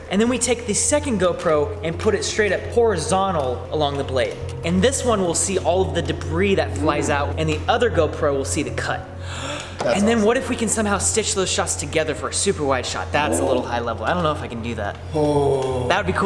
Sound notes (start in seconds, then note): 9.2 gasps